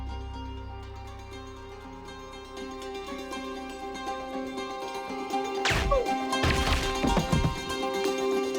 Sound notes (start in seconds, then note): 5.6 gun firing; 6.4 grunting